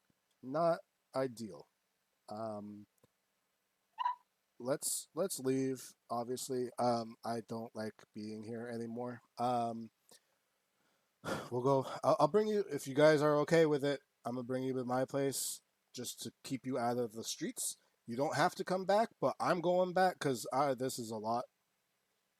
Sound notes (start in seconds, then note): 4.0 barks; 11.2 sighs